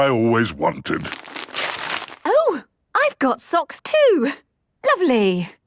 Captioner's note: tearing